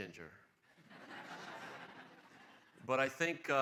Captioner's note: laughing